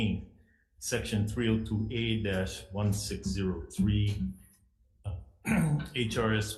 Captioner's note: clearing throat